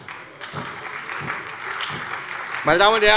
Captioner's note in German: Beifall bei der SPD